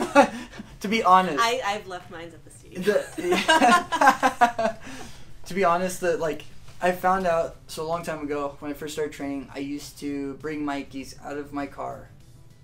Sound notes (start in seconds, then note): 0.0 laughter; 2.8 laughter